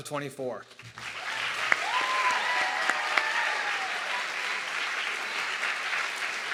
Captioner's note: audience clapping and cheering